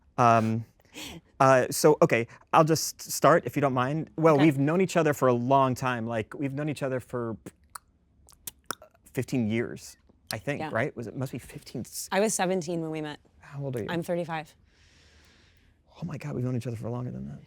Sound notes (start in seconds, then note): 0.2 Kristen chuckles; 8.3 Kristen mouth clicking; 8.3 mouth clicking